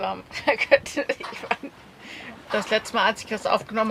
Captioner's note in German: lachen